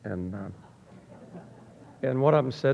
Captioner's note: audience laughing